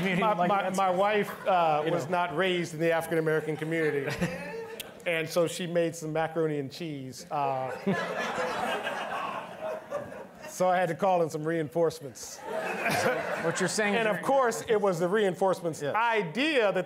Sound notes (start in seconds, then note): 7.4 all laughing; 12.3 all laughing